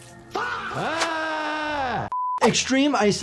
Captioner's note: doctor yelling